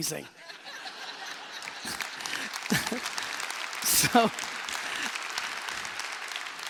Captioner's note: laughing; applause